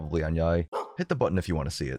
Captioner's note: woof